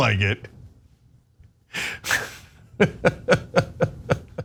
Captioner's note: laugh